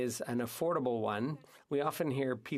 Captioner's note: speaking French